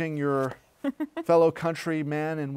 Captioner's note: laughter